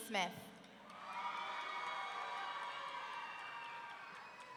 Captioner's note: audience cheering